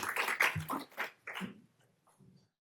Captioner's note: applause